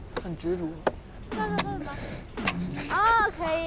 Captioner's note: stepping Stepping